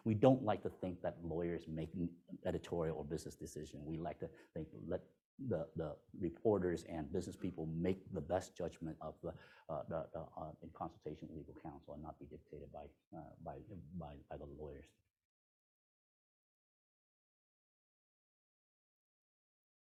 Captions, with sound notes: We don't like to think that lawyers making editorial or business decision. We like to think, let the reporters and business people make the best judgment of the, in consultation with legal counsel and not be dictated by the lawyers. (no audio present)